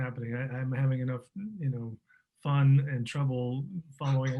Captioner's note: laughing